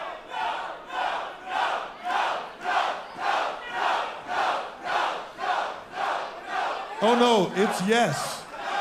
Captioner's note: crowd chatter